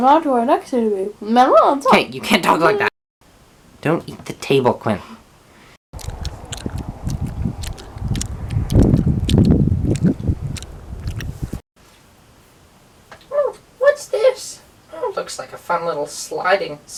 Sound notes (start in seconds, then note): 5.9 loud chewing noises; 13.5 mocking voice